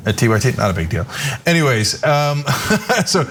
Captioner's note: laugh